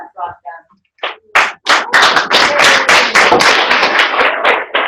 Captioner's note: applause